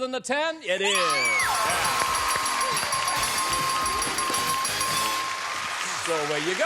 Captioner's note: dinging